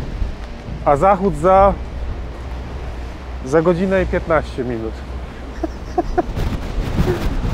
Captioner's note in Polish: śmiech